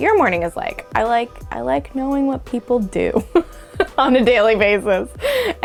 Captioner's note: laughs